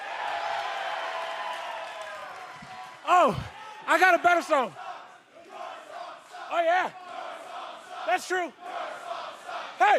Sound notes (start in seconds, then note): 0.0 cheers and applause; 7.2 fans chanting